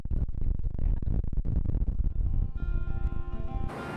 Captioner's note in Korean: 으...바람소리